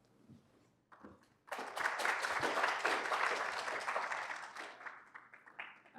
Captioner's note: applause